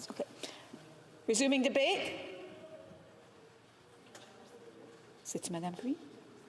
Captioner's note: speaking French